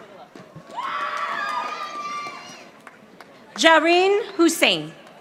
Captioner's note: audience applauding